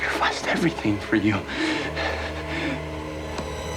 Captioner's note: grunting